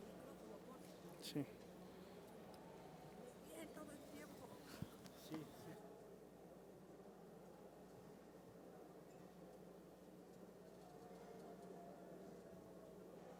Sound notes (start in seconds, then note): 6.7 hablando inglés